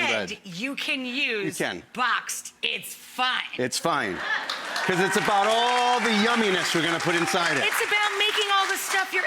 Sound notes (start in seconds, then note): 4.2 audience cheering